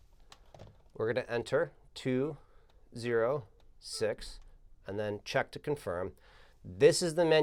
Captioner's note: beeping